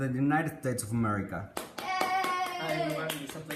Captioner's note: applause